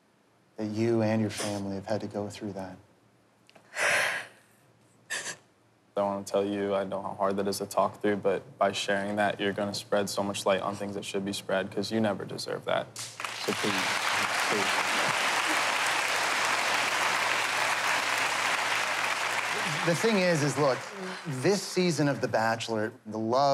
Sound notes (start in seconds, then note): 3.0 sighs deeply; 15.1 applause